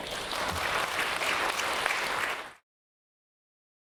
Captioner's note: audience applause